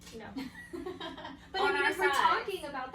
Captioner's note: laughs